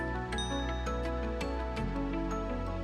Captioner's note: ding